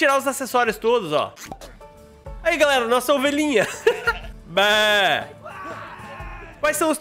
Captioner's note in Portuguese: risos